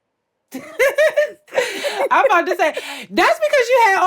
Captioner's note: laughs